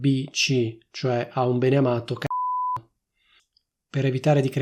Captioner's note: beep